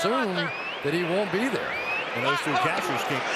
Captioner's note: cheering